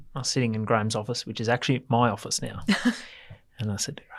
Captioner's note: laughs